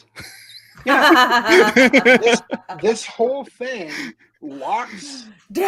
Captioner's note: laughter